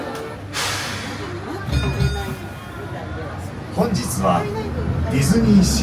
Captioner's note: announcer speaking in Japanese; bell ringing; announcer speaking in Japanese